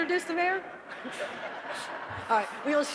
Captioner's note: audience laughing